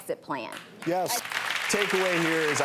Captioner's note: clapping